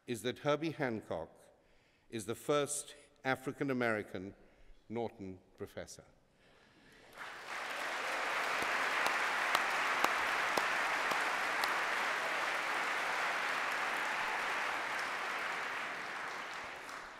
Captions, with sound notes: is that Herbie Hancock is the first African-American Norton Professor. [APPLAUSE]